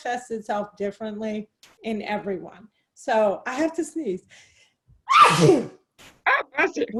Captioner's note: sneezes